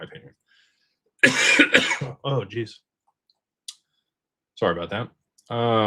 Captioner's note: cough